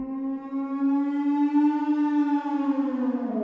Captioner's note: beast howls